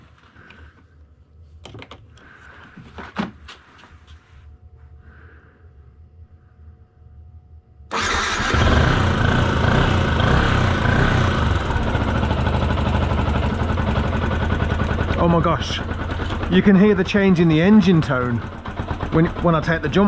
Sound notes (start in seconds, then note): 7.9 engine starts; 7.9 engine running